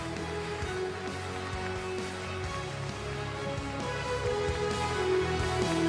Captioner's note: applause